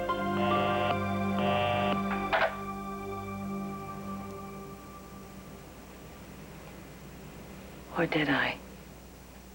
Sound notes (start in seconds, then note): 0.4 busy signal